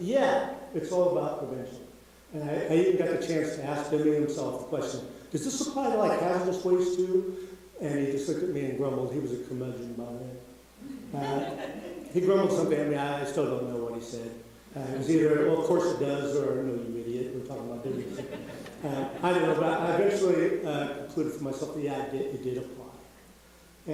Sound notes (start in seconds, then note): 11.1 audience laughing